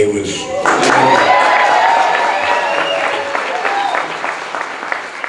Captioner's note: audience clapping and cheering